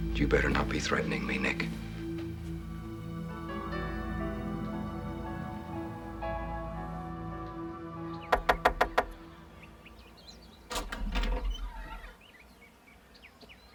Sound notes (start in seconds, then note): 2.5 tense music; 8.3 knocking